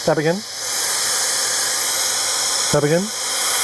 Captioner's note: blower whirring